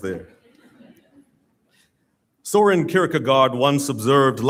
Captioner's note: audience Laughing